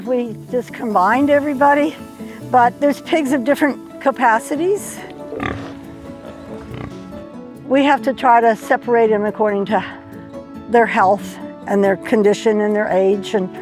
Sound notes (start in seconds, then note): 5.5 pig snorts